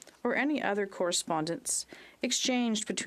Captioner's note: speaking French